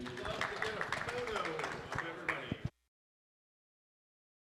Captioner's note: attendees applauding